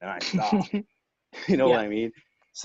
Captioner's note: laughing